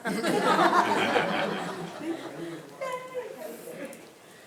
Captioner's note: attendees laughing